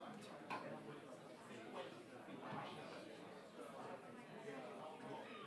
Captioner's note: audience members faintly talking